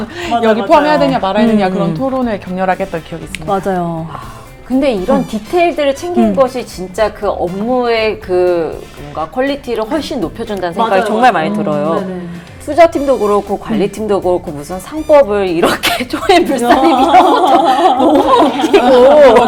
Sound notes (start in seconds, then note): 16.6 haha